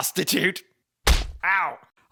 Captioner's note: punch